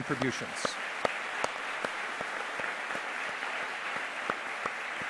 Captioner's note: audience applause